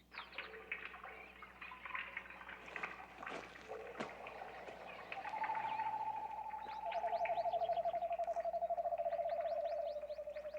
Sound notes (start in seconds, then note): 0.6 water running; 6.6 mysterious bird calls echo